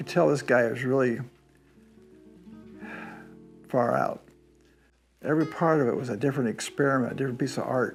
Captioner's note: sighs